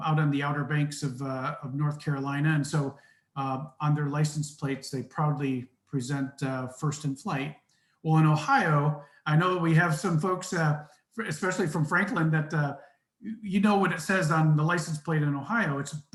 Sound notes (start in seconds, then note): none